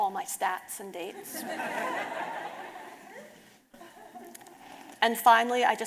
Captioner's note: audience laughing